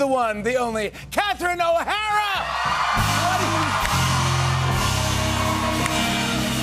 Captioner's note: cheers and applause